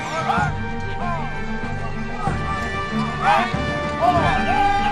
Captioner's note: dramatic music; soldiers chattering